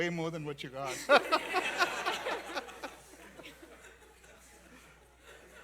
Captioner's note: laughter